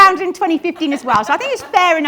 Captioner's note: audience laughs